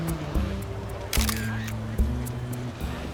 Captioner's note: camera shutter clicks